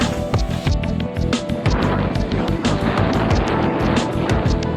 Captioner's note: windy